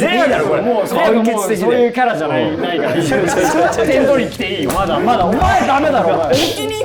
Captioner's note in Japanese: 一同・スタッフ：笑い